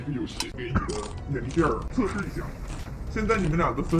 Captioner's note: eating